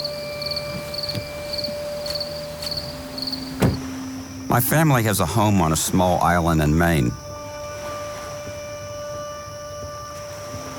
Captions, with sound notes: (insects chirping) (door closes ) My family has a home on a small island in Maine. (pensive music)